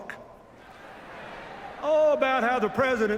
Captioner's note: laughter